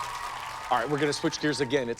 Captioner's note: cheers and applause